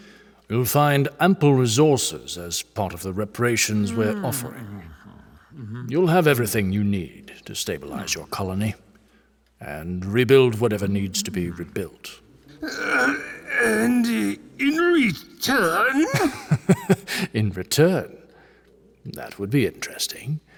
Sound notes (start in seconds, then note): 13.8 strained; 15.2 laughing